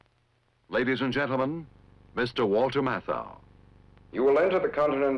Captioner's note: voiceover